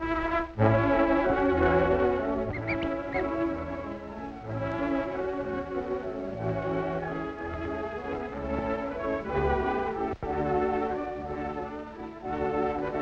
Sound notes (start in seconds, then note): 2.7 kitten mews; 5.8 sweet orchestra music